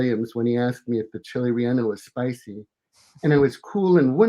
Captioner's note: murmurs